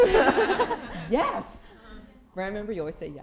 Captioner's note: laughter